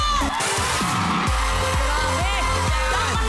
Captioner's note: audience cheering